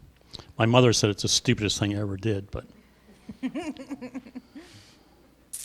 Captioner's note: laughing